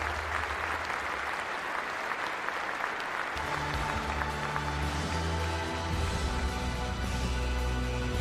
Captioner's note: applause